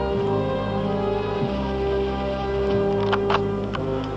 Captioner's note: gun clicks